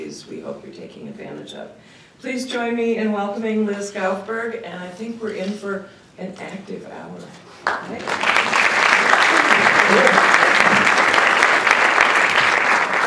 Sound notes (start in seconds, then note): 7.6 applause